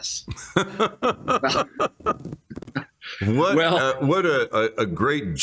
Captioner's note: laughter